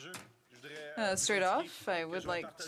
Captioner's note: speaking French